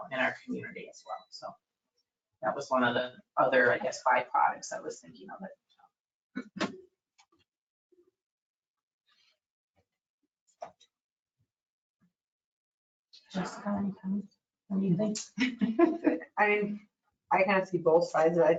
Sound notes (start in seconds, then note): 15.7 laughs